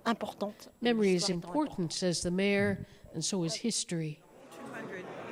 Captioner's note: speaking French